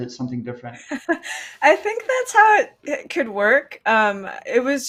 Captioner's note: laughs